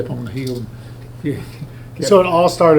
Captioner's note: Richard chuckles